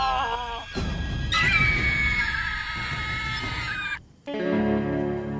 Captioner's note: gull screeching; gentle music